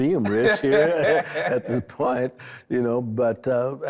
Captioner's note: laughs